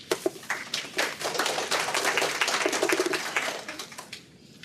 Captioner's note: applause